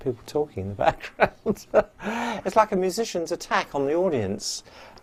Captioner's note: laughs